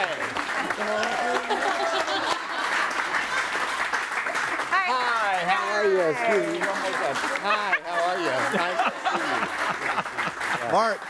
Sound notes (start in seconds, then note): 1.2 audience applauds; 7.3 laughs; 9.7 audience applauds